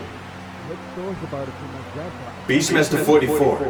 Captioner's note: more chatter among the crowd